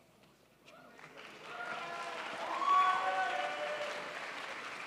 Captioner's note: crowd applauds